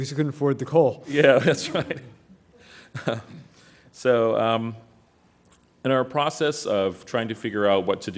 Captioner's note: laugh